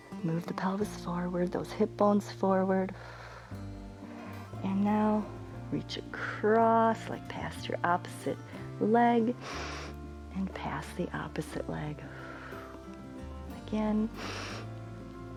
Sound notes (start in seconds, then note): 12.8 exhales; 14.1 inhales